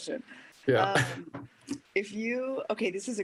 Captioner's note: laughter